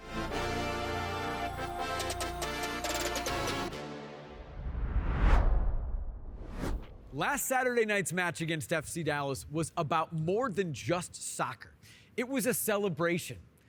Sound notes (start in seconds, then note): 0.0 upbeat music; 4.4 air whooshing